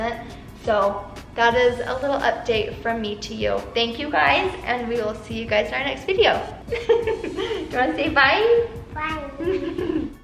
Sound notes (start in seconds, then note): 6.7 laughs